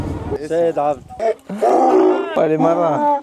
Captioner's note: donkey braying; laugh